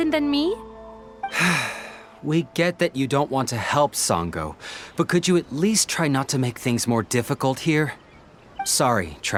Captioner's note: sigh